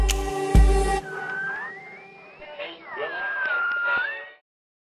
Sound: light electronic music; radio tuning

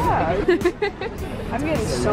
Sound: laughs

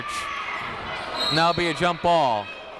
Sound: whistle

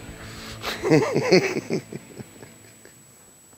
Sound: laughs

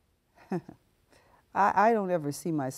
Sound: laughing

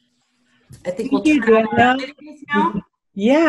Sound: overlapping muttering

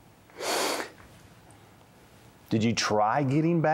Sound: sniffs

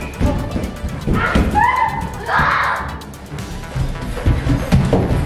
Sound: stomping sounds; running sounds

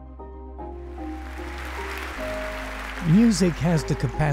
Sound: upbeat music; audience applauds

